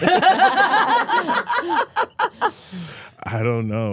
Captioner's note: all laughing